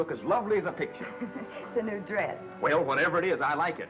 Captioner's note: chuckles